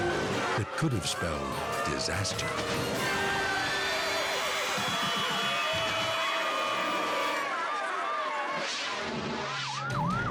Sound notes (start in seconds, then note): 3.0 horse squeals; 6.0 crowd screams; 9.4 sirens wail